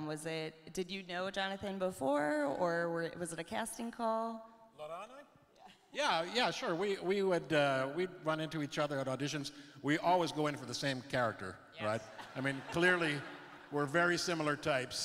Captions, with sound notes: Was it, did you know Jonathan before? Or were, was it a casting call? - Laurent and I? - Yeah. - Yeah, yeah sure. We would, we'd run into each other at auditions. We always go in for the same character. Right? - Yes. (laughs) - I mean, clearly we're very similar types.